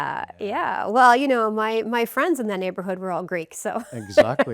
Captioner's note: rires